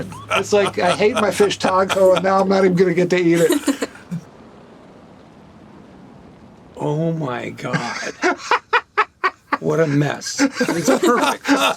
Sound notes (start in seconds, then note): 3.3 laughs; 7.7 Gilligan laughing